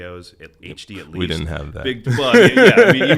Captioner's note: laughs